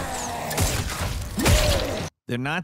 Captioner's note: gun thudding; zombie growling; gun booming